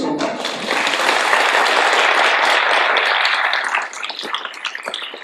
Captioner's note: audience applauding